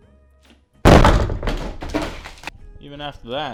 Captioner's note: clattering